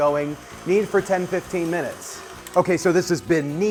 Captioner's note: mixer buzzes